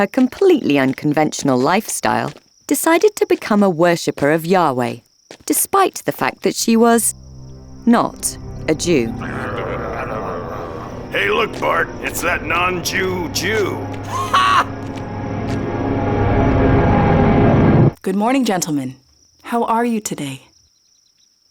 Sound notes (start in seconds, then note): 9.1 men growling; 14.0 Bart laughing derisively; 15.3 ominous music